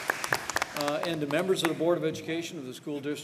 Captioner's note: applause